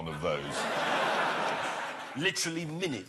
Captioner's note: laughter